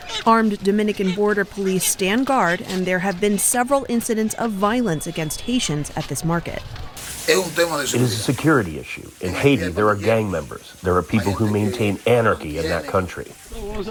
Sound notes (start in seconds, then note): 8.5 through translator